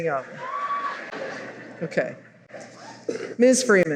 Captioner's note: laughter